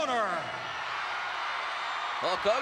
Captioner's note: audience cheering